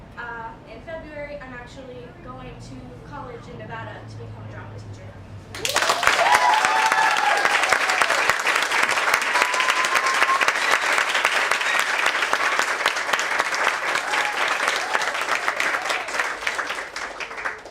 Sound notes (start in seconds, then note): 5.5 applause